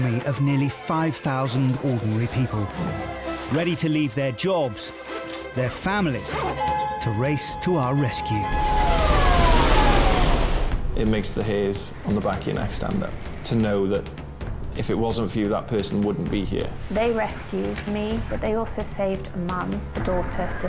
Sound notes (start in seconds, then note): 8.2 water crashes